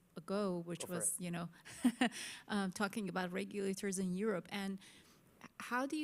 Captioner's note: laughs